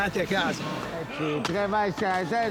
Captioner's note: donkey’s bray in background